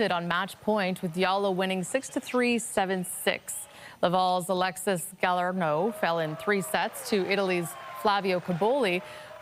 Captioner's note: cheering and Applause